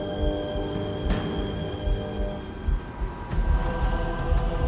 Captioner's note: wind howling